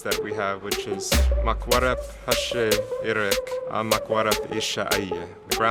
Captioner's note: foreign language